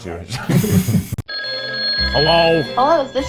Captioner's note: phone ringing